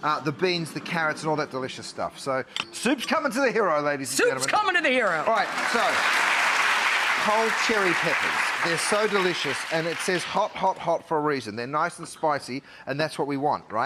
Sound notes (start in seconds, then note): 5.0 applause